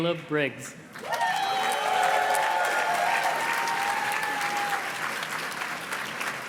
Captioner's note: audience cheers and claps